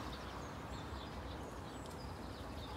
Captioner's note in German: Vogelzwitschern